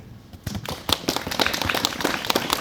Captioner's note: audience Applauding